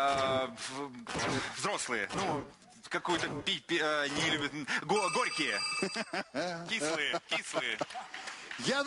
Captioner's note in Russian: звонок